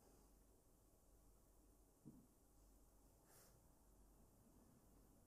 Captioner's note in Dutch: none